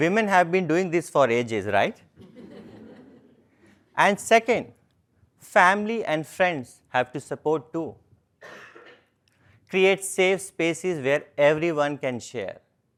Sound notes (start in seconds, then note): 2.4 laugh